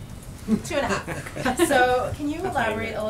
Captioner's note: laughter